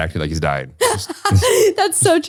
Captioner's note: laughs